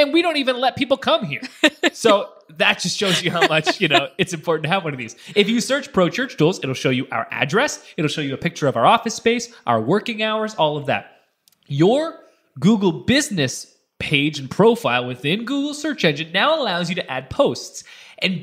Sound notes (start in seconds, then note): 3.0 laughs